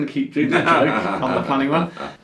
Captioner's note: laughs